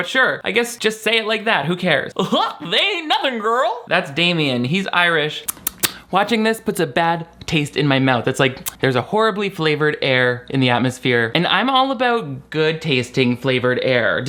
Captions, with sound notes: But sure, I guess just say it like that. Who cares? (guffaws) They ain't nothing, girl. That's Damian. He's Irish. (smacks lips) Watching this puts a bad taste in my mouth. It's like there's a horribly flavored air in the atmosphere, and I'm all about good-tasting flavored air.